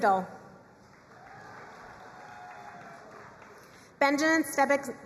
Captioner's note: crowd cheering and applauding